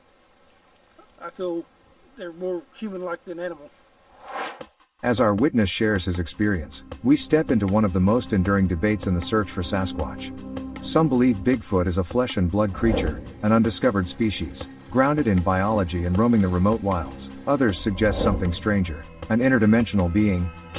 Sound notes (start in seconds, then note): 4.2 air swooshes